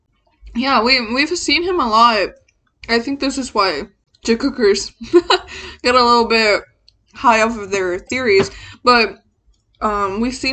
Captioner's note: laughs